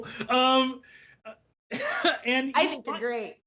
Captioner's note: laughs